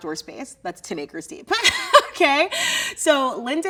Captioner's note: laughs